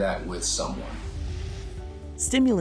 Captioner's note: swoosh